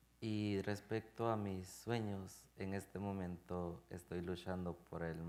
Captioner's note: speaking in Spanish